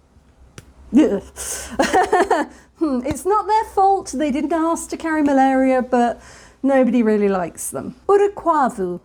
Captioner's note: shudder